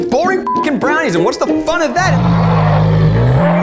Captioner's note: beeps